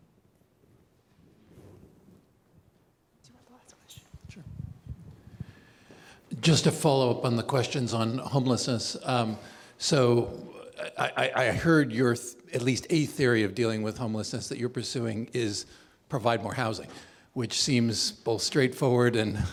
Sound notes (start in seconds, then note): 2.0 whispering, shuffling